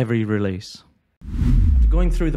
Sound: whooshing

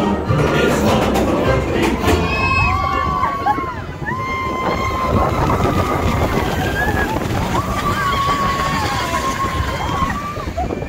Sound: music continues; sounds of roller coaster and people screaming

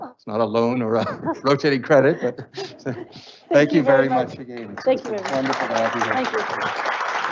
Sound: laughs

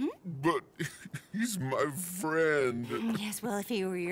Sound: sobbing

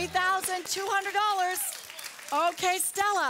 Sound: audience applause

